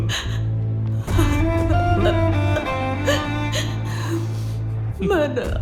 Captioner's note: crying